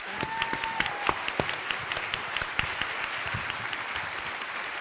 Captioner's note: audience applauds